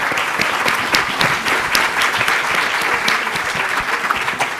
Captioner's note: everyone Clapping